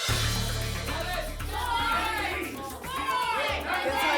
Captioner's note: audience shouting numbers